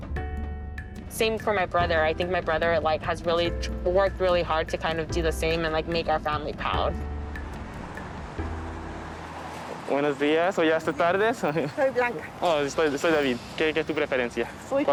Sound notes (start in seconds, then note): 10.7 speaking in Spanish; 13.6 speaking Spanish